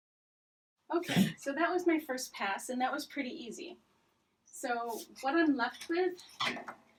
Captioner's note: dog cough